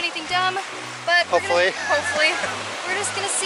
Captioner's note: laughter